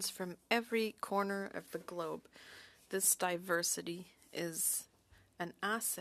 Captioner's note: speaking French